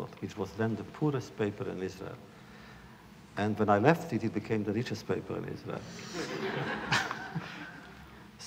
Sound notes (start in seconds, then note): 6.0 laughter